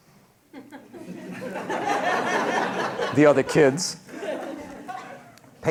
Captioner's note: laughter